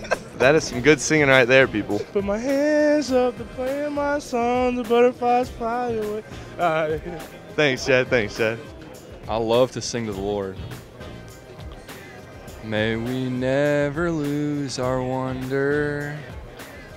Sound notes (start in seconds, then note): 0.0 laughs; 2.2 singing; 5.5 laughs